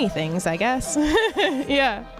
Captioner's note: laughs